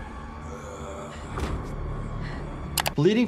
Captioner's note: creature groaning